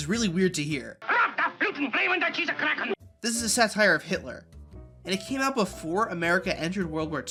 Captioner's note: speaking vaguely German-sounding gibberish